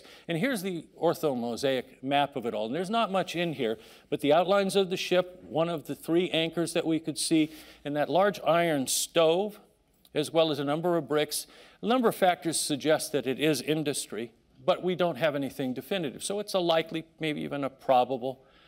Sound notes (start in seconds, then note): none